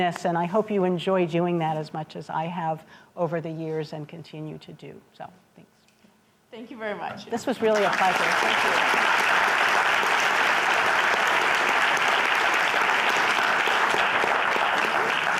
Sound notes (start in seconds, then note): 7.6 applause